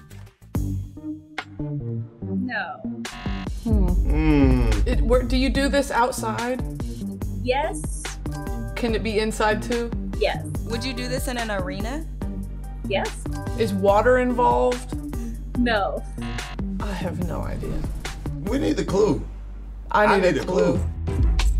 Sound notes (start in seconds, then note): 0.1 suspenseful music; 16.4 buzz; 21.3 trendy music